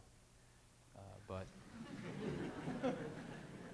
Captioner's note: laughter